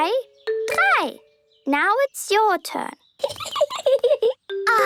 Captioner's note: Peppa giggling